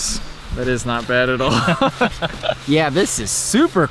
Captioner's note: both laugh